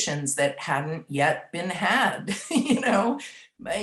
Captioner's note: laughs